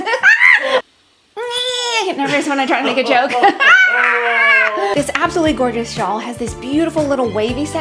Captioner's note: laughter